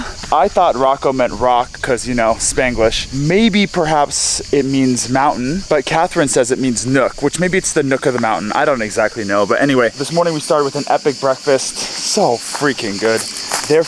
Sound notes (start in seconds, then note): none